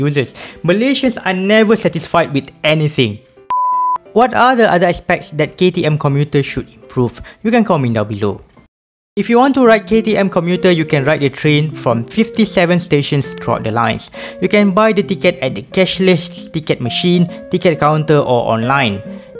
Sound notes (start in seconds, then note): 3.5 beep